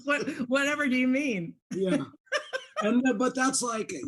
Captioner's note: laughs